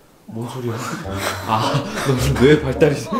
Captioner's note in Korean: 깨달은 탄성